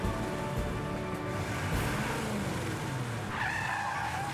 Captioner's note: engine Revving; tires Screech